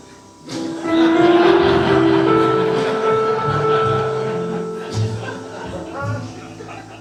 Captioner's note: jazz piano continues; audience laughing